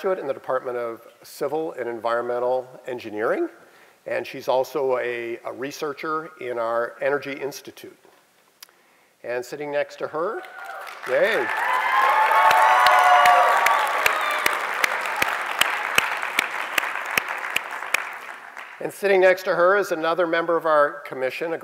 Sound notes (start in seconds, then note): 10.4 applause